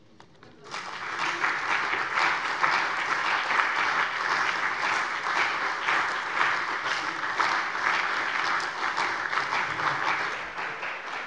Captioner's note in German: Lebhafter Beifall bei der CDU, der SPD, dem BÜNDNIS 90/DIE GRÜNEN und der FDP